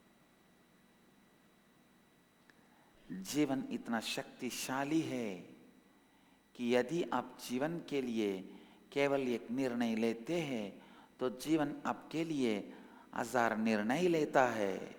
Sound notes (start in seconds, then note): 5.2 hindi